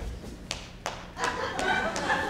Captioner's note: hand smacking; audience laughs